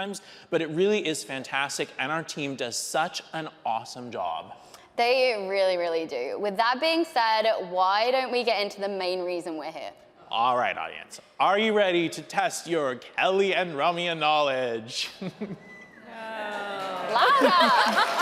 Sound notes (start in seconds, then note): 15.3 laughs; 15.7 audience cheering; 17.0 laughs